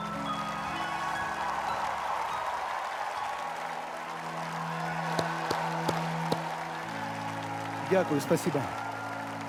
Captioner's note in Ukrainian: оплески